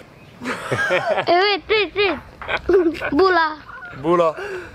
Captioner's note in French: Enfant qui parle en fidjien